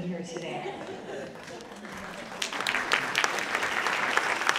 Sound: audience clapping

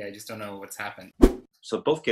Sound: whoosh

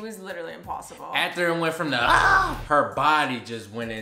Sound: yelling

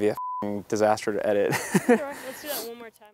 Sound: laughs

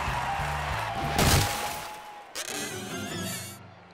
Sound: crash; squeaking

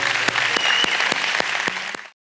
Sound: congregation applauding

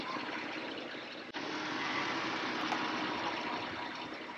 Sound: car revving

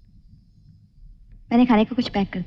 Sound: none

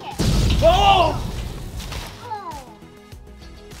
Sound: explosion

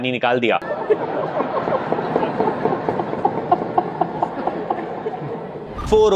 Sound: people laughing

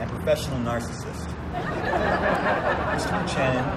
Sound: overlapping laughter; audience laughter

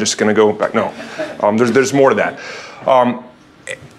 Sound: laugh

